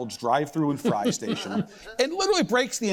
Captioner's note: laughs